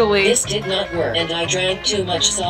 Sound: robot Voice

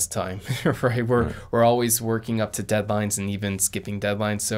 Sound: chuckles

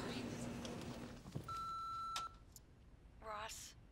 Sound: answering machine beeping

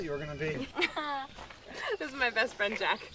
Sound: laughter

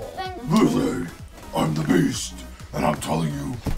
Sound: low growling voice

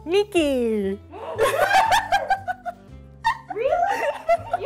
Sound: laughing

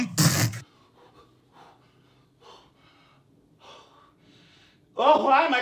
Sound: panting

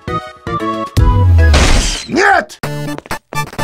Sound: channel intro sound, punch and electrical fault noises, music stops

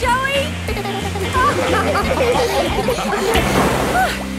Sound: laughing; giggles

